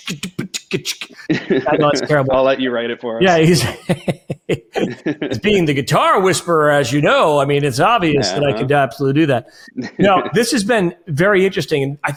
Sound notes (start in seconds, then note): 3.2 laughs